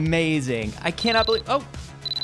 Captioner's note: ringing